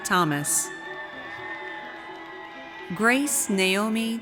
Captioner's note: audience cheers